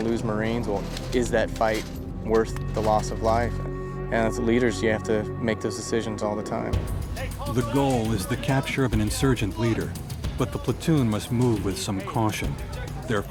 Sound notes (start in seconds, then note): 7.8 voiceover